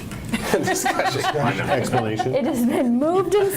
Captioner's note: laughing